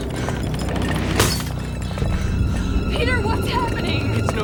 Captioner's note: chandelier rattling; glass shatters